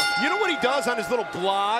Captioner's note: bell ringing